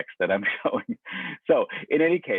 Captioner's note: laughs